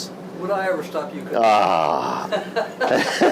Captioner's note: grunts; laughs